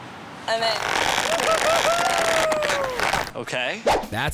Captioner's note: cheering